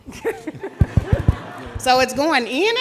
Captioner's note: laughing; audience laughing